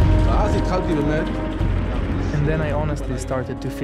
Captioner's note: speaking in foreign language